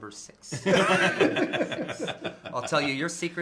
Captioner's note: laughter